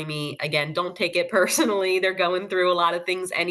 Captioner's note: laughs